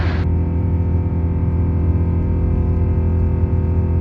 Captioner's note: engine buzzing